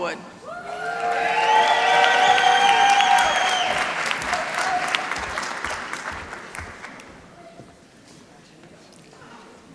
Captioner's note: applause